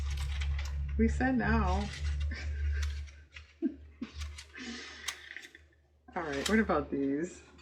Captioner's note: laughs